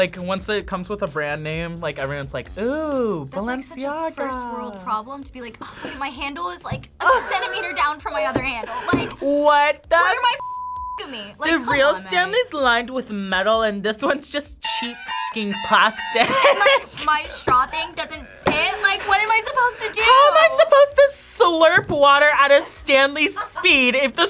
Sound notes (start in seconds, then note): 16.2 laughs